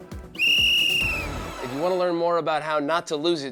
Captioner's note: blows whistle